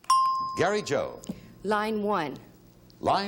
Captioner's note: ding